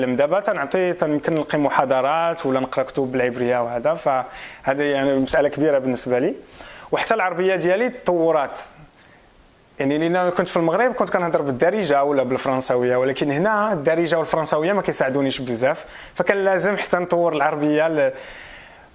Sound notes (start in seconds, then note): 12.4 dialect